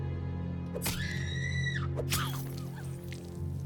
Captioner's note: scream